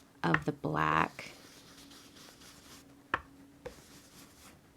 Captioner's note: brush scrubbing